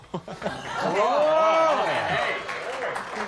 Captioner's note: laughter